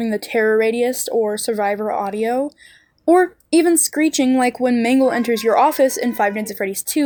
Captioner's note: cat screeching